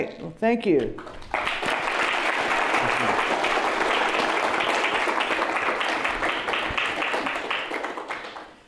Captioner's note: applause